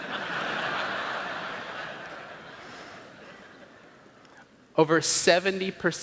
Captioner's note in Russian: Смех